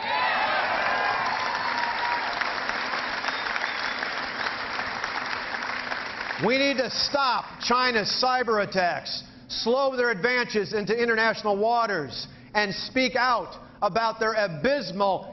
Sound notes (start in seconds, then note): 3.9 cheering